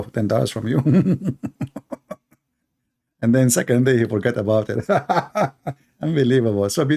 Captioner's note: Ketawa